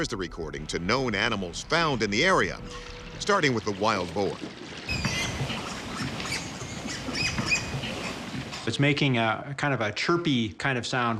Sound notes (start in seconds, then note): 4.8 boar squealing